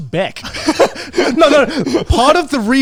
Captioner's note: both laughing